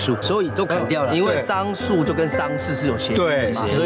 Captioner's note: in Mandarin